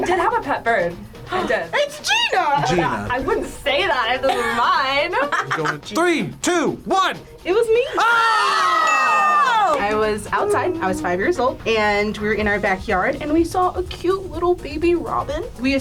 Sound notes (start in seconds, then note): 1.9 gasps